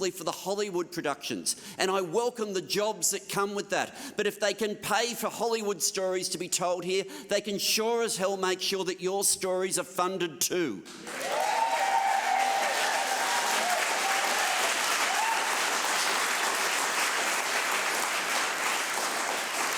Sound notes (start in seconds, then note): 14.7 applause